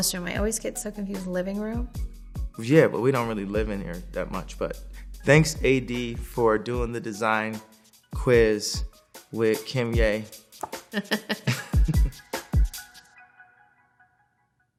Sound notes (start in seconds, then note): 10.9 laughing; 12.3 bright hip hop beat